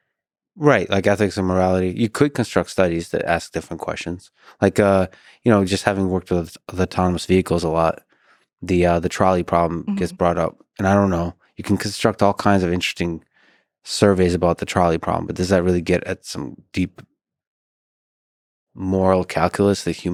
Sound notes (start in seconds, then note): none